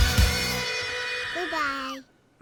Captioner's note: prepubescent voice